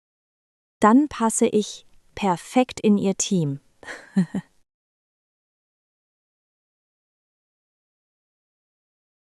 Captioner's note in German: lacht